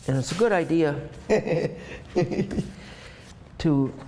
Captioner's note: laughs